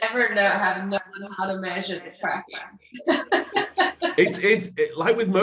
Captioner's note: laughs